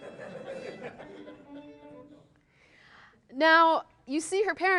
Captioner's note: laughing